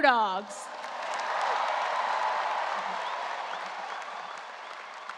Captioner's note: audience cheering and applause